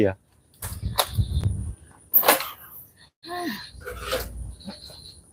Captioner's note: cricket Sound